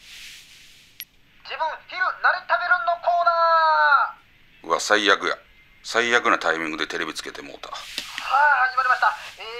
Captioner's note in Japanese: テレビをつける音